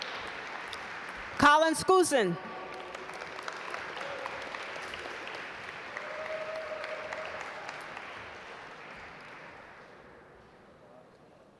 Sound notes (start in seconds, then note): 3.4 audience applaud